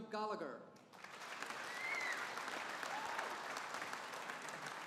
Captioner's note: audience applauding